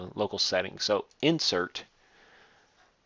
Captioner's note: none